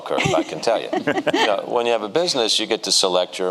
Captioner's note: giggles